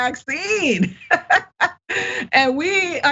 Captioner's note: laugh